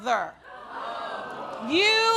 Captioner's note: audience gasps